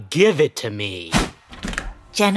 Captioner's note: swish sound, cross cutting to a therapist's office